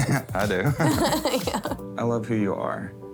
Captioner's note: laughs